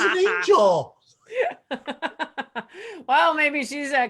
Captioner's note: laughs